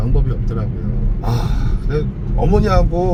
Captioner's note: sighs